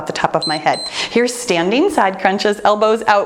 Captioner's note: timer beeps